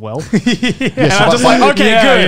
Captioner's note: laughing